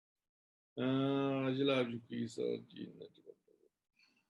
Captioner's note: tibetan